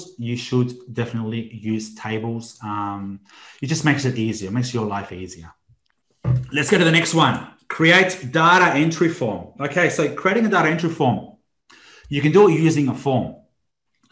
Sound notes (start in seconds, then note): none